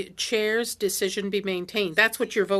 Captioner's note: speaking French